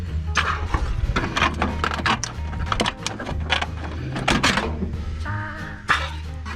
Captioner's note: squeaky metal noises